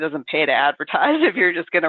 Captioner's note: chuckles